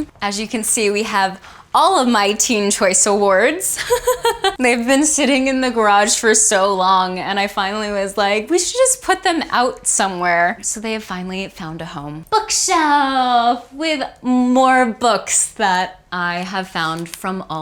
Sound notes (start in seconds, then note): 3.8 laughs